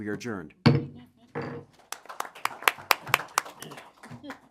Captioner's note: gavel strike, applause